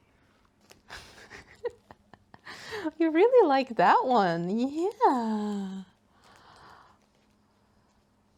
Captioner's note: laughs